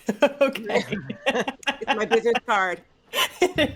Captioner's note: laughing